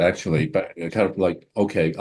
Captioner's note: stammering